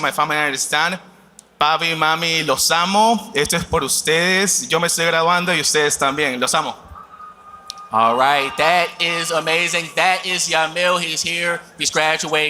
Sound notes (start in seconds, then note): 6.6 speaking spanish